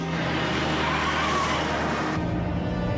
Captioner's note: tires screeching